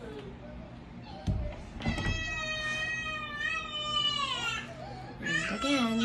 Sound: door closes and begins wailing

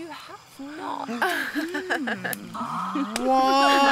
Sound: laughs

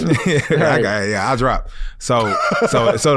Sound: laughs

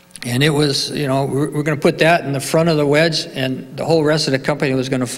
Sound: none

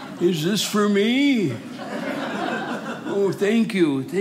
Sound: audience laughing

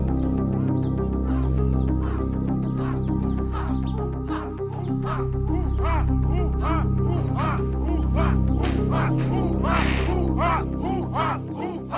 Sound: chanting sounds

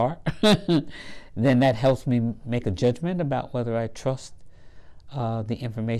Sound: laugh

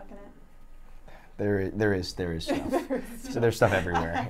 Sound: laughs

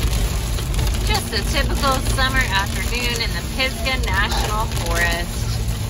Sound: raining

